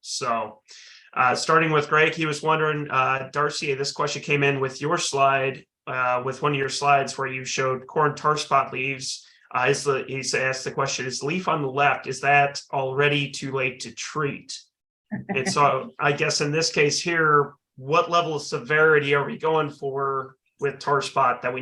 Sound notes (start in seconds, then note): 15.2 chuckling